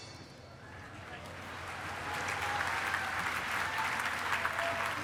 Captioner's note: applause